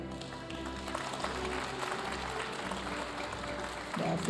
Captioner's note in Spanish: aplausos de la audiencia